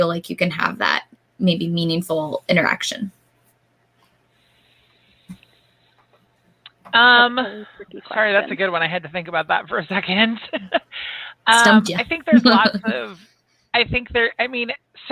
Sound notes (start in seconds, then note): 11.5 chuckles